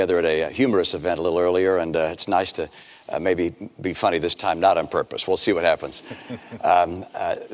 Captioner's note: laughter